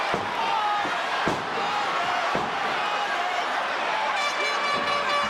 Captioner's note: audience chanting; air horn blares